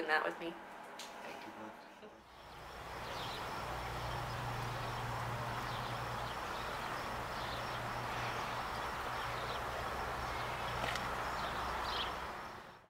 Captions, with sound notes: Yes. Thank you, mums. [birds chirping]